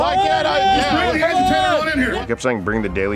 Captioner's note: crowd yelling